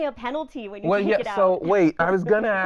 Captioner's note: laughing